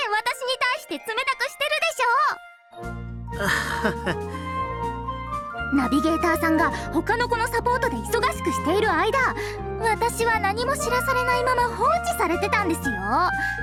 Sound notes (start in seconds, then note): 3.3 sigh